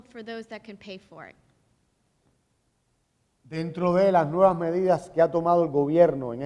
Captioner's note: speaking in Spanish